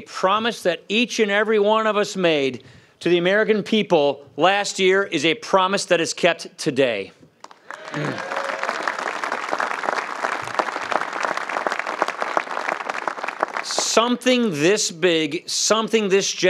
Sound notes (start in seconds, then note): 11.4 applause